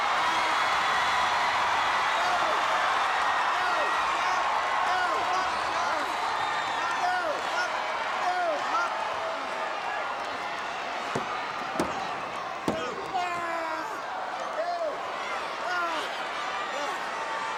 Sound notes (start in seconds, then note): 0.3 audience cheering; 11.1 mat banging; 12.6 wrestlers grunting